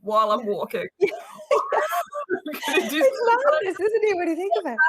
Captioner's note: chuckles